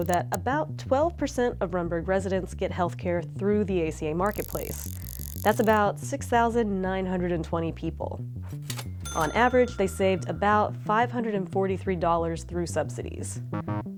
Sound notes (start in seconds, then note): 4.3 numbers clicking